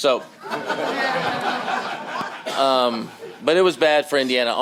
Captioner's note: laughter